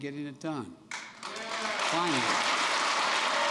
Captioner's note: applause